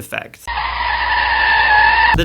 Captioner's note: car screeches